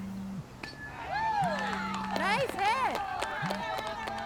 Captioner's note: cell phone buzzing